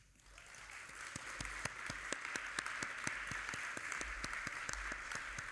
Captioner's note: audience applauding